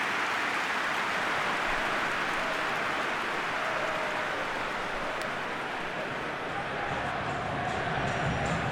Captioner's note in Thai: ปรบมือ